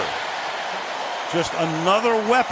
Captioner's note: cheering